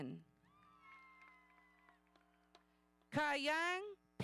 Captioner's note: audience cheering